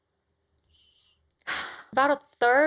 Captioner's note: sighs